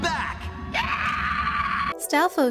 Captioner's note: petrified screaming